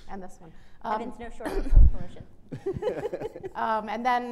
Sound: laughing

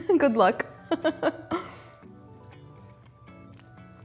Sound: chuckles

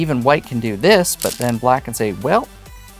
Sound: stones rattling

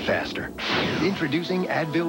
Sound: whoosh

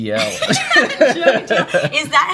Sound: laughing

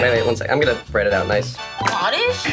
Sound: buzzer buzzes

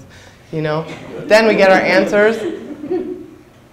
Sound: audience laughs

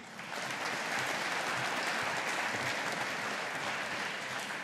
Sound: audience applauding

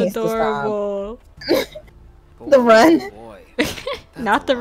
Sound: friend laughs; laughs

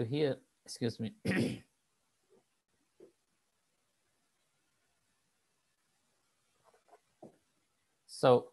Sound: clears throat

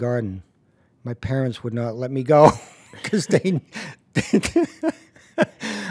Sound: laughing

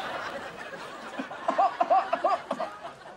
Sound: coughing

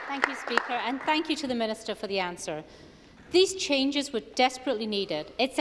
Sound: applause

